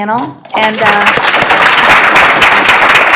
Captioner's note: applause